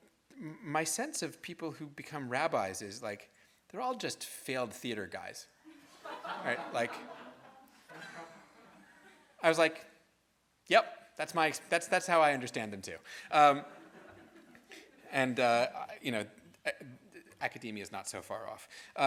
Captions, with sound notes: "My sense of people who become rabbis is like, "they're all just failed theater guys." (audience laughs) I was like, yup. That's how I understand them too, and academia is not so far off.